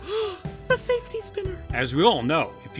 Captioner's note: gasp